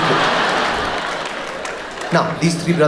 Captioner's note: audience laughs